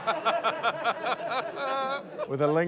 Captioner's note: laughs; laughter